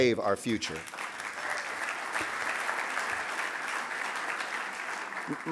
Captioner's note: audience applauding